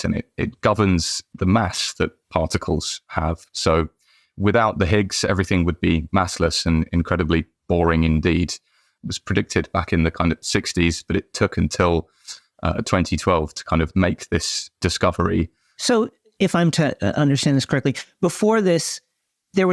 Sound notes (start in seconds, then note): none